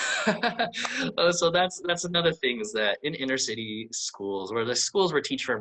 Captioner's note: laughs